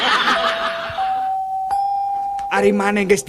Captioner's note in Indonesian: tertawa